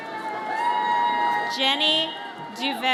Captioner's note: audience cheers